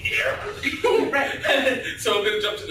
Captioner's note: laughter